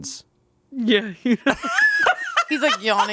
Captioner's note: laughing